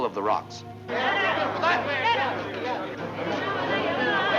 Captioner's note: villagers shouting